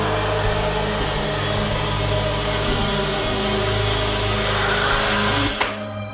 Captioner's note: cries from beyond